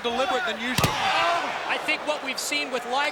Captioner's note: Rey Jr thuds